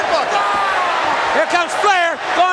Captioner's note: Sting yelling